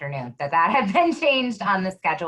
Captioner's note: laughing